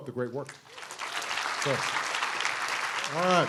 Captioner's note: applause